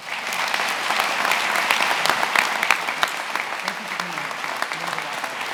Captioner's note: attendees applauding